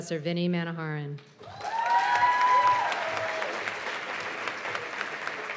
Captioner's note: cheers and applause